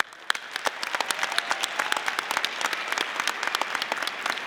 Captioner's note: audience applauding